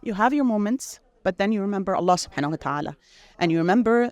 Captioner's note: speaks Arabic